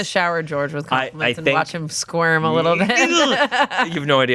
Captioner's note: laughs